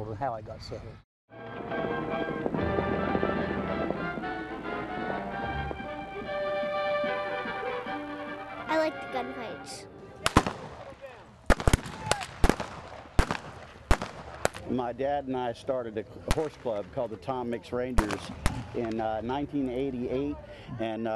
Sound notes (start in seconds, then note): 1.3 dramatic western music; 11.4 guns firing